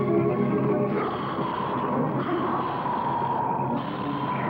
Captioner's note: growling